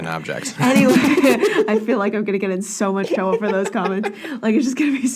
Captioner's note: maniacal laughter